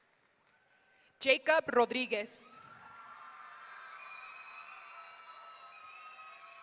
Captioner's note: audience cheering